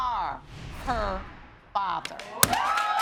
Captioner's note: audience cheering